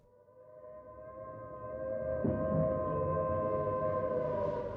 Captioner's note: air raid sirens blaring